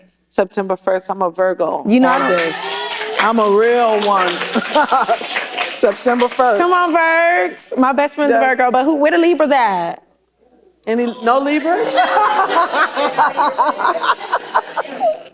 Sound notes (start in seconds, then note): 2.0 applause; 11.5 laughter